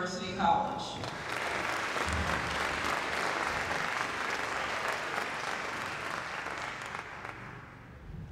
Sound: applause

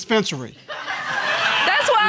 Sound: audience laughs

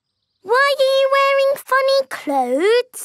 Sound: none

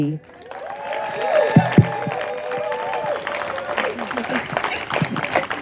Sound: audience applauding and cheering

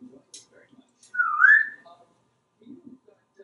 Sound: whistling

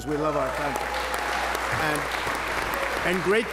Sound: applause

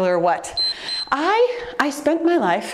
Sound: timer beeps

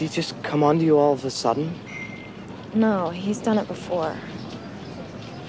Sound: bell ringing

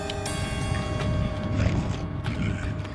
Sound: zombies growling

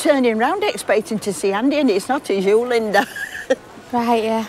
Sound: laughs

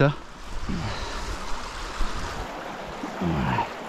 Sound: babbling water

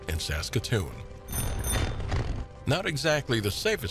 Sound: bell dings

